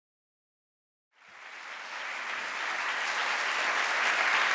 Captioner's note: applause